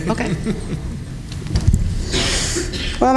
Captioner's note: laughter